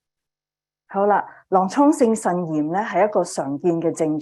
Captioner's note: speaking chinese